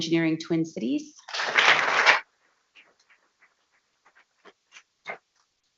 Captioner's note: people clapping